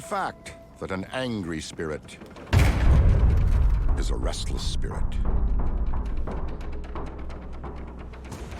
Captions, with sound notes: And it's a well-known fact that an angry spirit... (rattling & boom) ...is a restless spirit. (rattling)